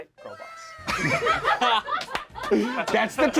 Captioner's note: group laughs